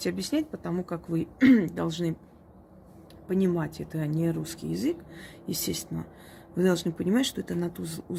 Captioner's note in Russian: откашливается